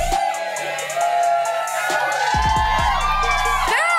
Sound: crowd cheering

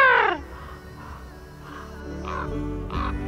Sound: caw Replies

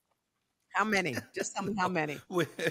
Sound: José laughs

